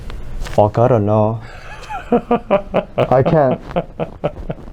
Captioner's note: starts laughing